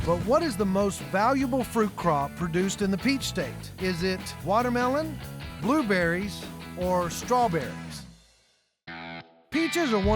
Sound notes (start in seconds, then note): none